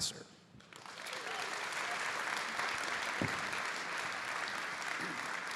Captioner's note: audience applauding